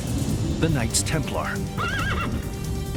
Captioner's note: horse neighs